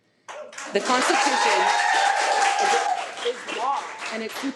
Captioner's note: audience cheering